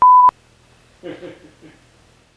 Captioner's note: crazy laughter